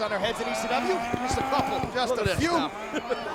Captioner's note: equipment rattling